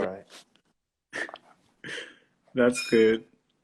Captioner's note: laughs